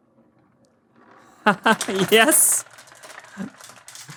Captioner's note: laugh